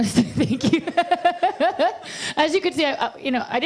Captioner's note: laughs